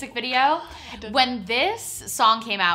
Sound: whispers

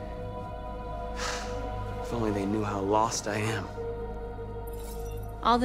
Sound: sigh

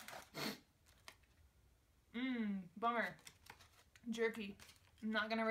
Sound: sniffle

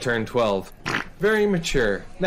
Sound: mimics farting noise

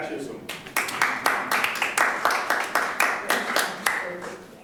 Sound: audience applauding

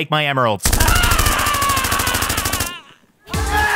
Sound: Stan yells; llamas cheer; upbeat music

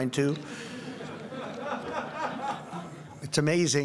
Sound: laughter

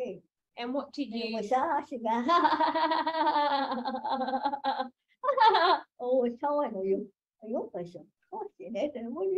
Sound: laughs

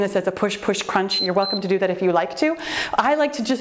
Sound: timer beeps

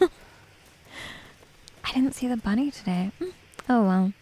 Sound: giggles

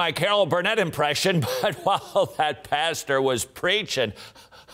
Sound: laughs

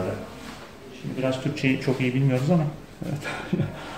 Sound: lauıghs

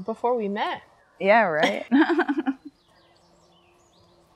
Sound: laughs

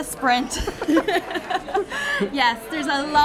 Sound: laughing

